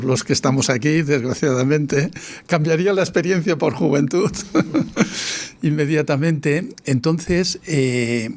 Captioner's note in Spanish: risas